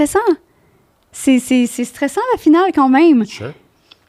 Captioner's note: in french